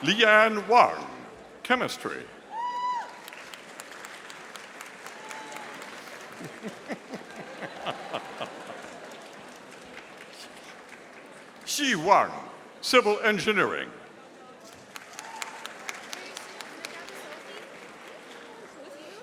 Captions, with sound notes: Leanne Wang, Chemistry. (audience applauding) (audience laughing) Shi Wang, Civil Engineering. (audience applauding)